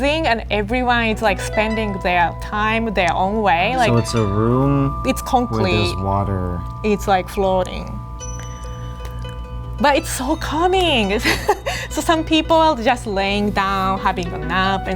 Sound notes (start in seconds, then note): 11.2 laughs